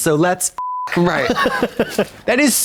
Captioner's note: beep; Katya snickers